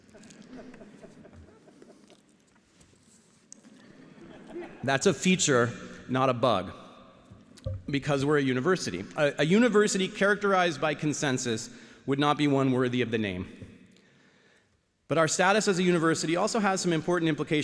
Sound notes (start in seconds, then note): 3.9 audience laughing